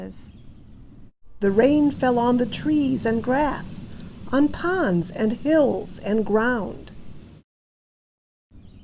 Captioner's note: rain sounds